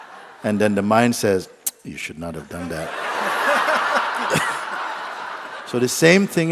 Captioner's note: laughter; laughter